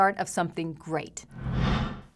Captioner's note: air whooshing